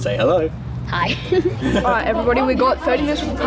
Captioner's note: chuckles nervously